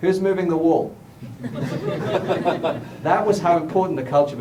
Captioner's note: laughter